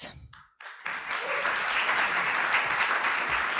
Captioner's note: applause